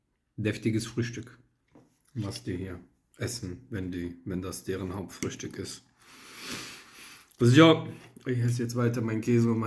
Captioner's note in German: schnauben